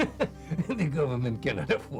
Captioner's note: laughing